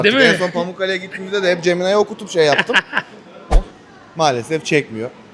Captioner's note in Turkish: kahkaha